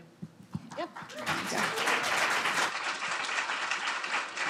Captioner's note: audience applauds